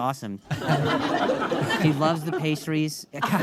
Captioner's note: audience laughing